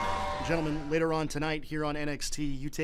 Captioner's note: crowd cheering